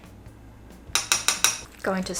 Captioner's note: spoon tapping